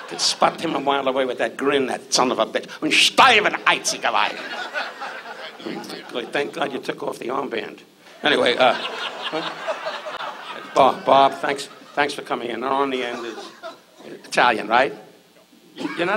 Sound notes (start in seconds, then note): 0.0 audience laughs; 3.5 Don speaks in German; 8.2 audience laughs